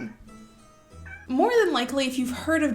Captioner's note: meow